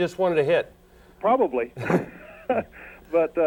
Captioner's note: laughs